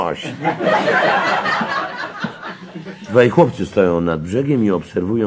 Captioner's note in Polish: śmiech